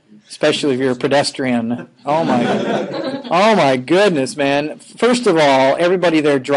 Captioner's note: laughing